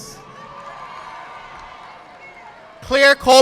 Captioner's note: audience clapping